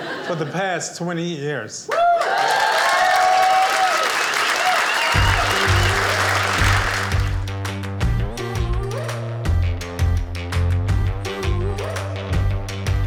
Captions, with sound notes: for the past 20 years. (audience cheers)